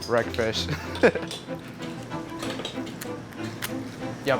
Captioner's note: laughs